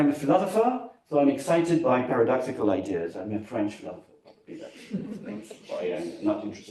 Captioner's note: laughter